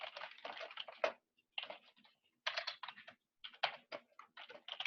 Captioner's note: keyboard keys clicking